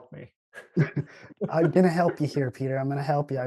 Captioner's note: chuckles